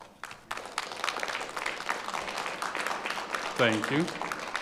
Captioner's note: audience applauding